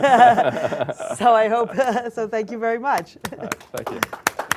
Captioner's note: applause